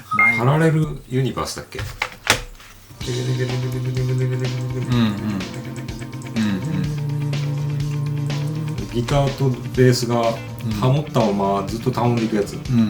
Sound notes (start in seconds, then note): 3.0 humming